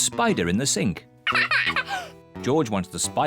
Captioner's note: laughs